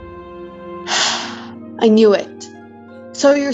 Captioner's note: sigh